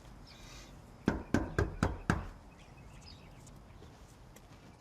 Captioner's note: knocking on door